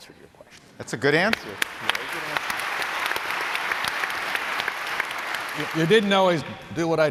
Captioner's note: applause